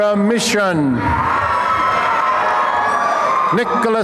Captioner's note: applause and cheering